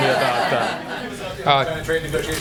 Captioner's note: laughter